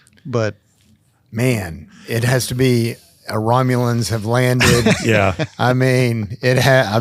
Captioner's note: chuckles